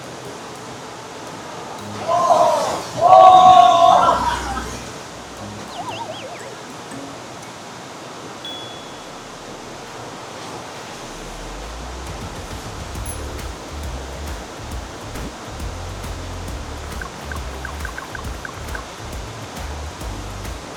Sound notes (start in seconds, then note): 16.7 splash! Splash! Splash! Splash!